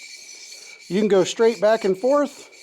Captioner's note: scraping